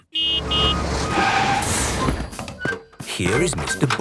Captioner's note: honking, engine revving